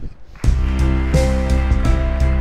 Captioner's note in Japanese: 拍手